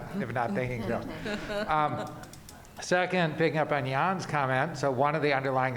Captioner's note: laughter